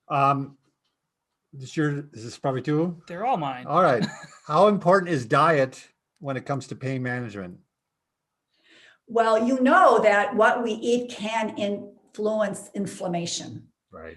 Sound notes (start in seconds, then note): 3.8 laughs